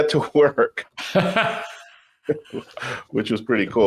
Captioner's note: laughs